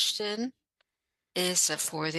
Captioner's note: speaking French